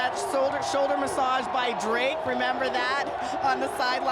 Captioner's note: laughter